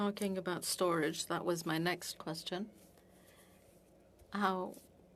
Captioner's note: speaking French